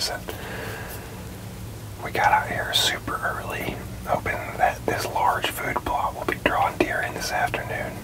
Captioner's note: whispering